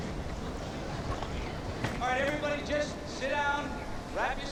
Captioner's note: wind blowing